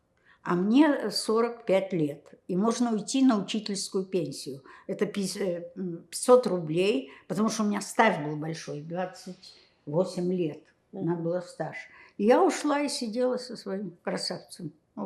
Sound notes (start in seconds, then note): none